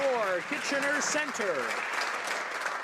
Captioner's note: some Applause